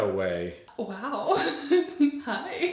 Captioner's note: laughing